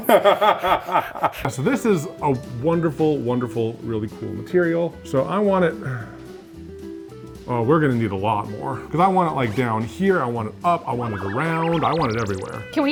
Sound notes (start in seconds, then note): 0.0 laughing; 6.9 sighs